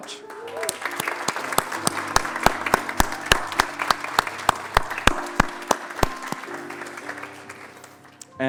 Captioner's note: applause